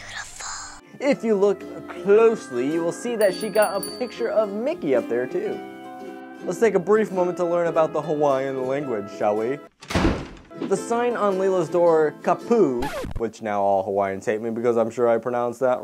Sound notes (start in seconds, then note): 9.8 door slams